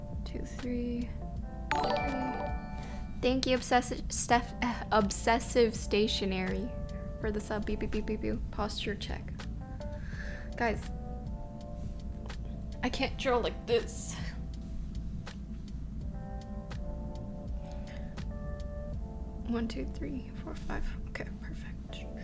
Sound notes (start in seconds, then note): 1.7 notification tingling